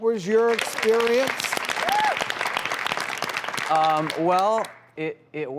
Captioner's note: audience applauds